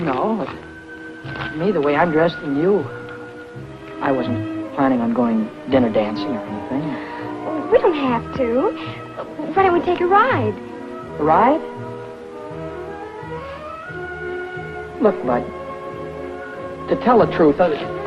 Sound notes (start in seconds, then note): none